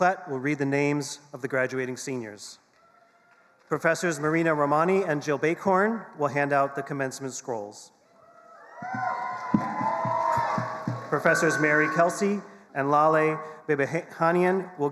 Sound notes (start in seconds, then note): 8.5 attendees cheering and applauding